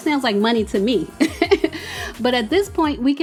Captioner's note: speaker laughs